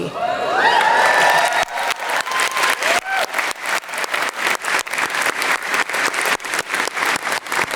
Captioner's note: applause